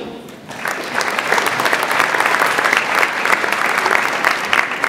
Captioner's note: audience applauds